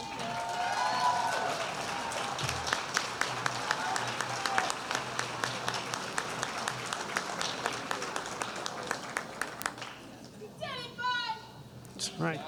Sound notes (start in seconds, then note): 9.3 cheers and applause